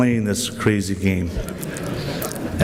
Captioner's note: laughter